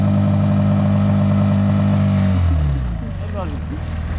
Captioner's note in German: Motor brüllt